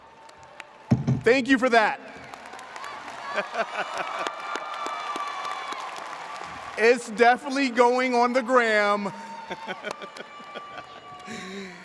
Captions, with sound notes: Thank you for that. (audience cheers) It's definitely going on the Gram. (laughs)